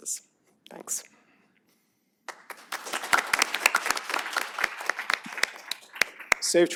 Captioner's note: applause